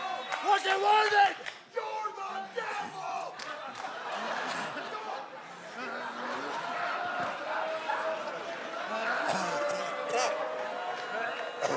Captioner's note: crowd chatter